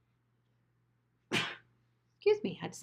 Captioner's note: sneezes